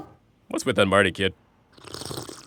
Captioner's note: slurps